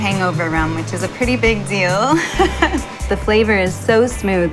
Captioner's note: laughs